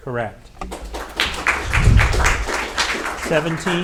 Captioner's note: audience applauding